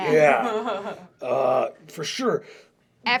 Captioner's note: laughter